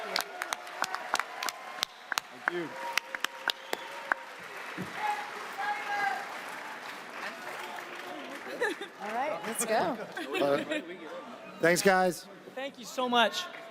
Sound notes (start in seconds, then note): 0.2 audience cheers, applauds; 10.1 panel laughing